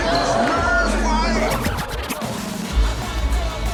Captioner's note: record scratching